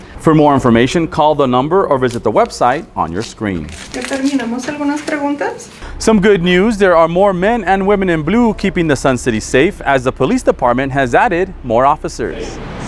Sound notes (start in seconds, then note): 4.0 medical professional speaking foreign language